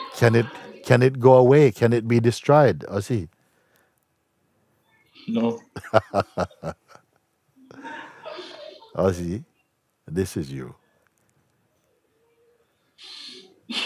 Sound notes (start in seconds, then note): 5.7 Mooji lacht